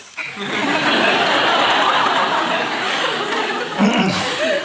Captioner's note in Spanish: Risas